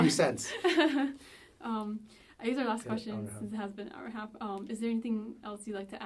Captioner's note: laughs; laughs